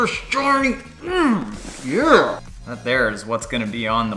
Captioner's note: grunts